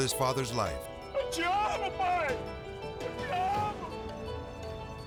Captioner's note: son speaking Portuguese